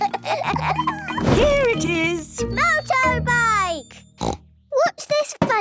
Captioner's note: snort